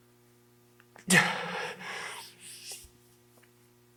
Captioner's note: Jacob gasps